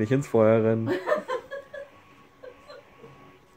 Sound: laughs

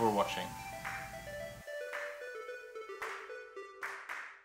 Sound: musical sound effect

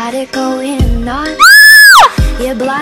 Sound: screams

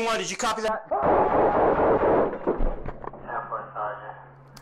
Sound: Jeff screams

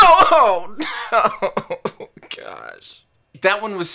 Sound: crying

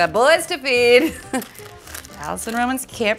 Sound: Alison laughs

